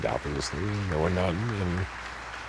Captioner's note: applause